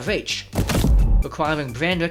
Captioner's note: thud